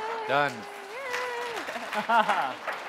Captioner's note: applause